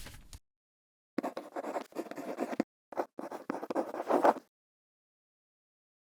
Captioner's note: quill scratching